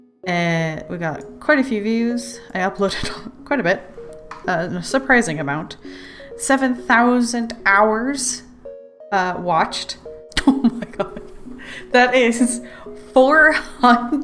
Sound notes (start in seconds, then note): 10.4 laughs